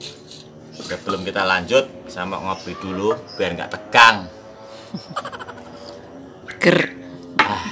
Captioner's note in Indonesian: tertawa